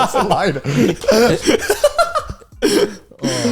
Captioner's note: all laughing